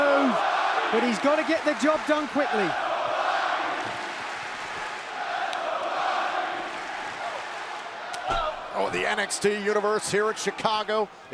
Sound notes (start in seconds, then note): 2.3 crowd cheering